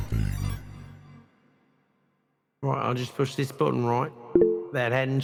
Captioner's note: computer error beep